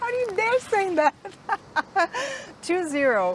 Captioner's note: laughs